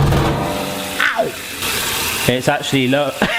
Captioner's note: clattering; water running